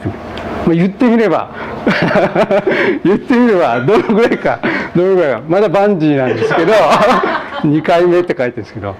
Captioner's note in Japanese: 笑い